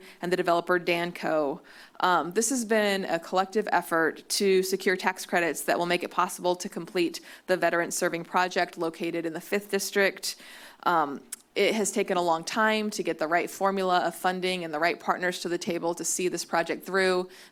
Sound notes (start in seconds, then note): none